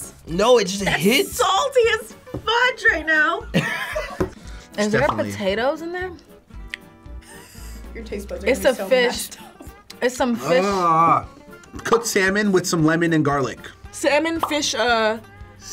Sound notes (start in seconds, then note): 3.5 laughing; 10.5 groaning